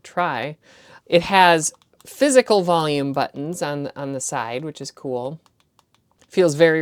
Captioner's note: button clicking sounds